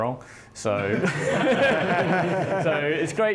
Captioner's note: laughing